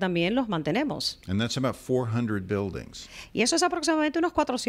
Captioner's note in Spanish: Hablando ingl\s